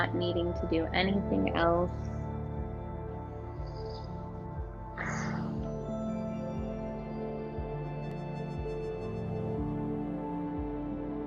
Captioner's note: exhales